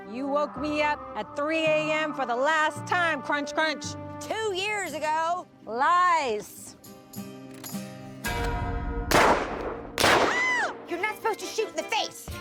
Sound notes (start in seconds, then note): 10.4 shrieks